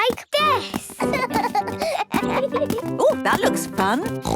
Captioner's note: both laugh